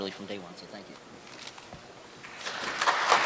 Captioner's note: applause